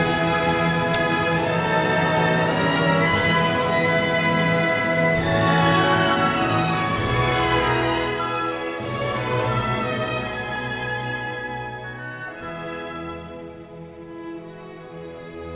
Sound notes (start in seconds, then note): 0.9 revolver fired X8?!??!